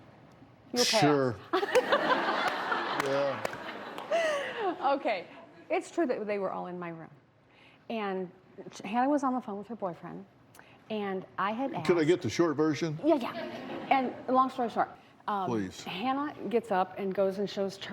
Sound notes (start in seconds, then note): 3.4 laughter